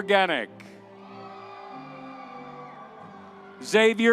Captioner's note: audience cheering